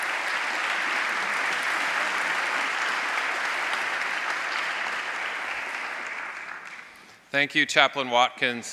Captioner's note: applause